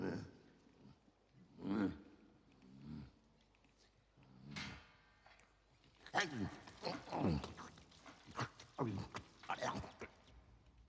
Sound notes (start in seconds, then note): 1.5 grunting; 6.1 snorting; 9.0 chomping